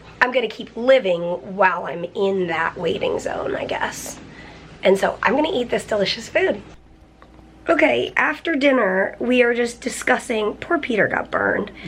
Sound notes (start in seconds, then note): none